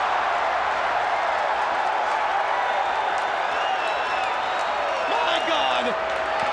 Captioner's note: crowd cheering